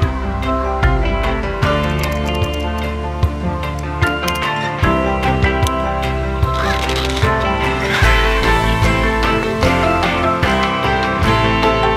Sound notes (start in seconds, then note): 1.8 typing; 6.4 rubber band stretching